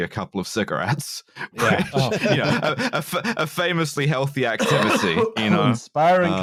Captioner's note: laughter